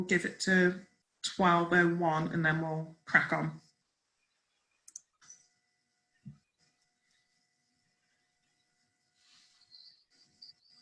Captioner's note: silence